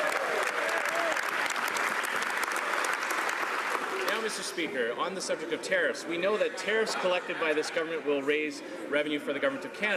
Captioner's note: some Applause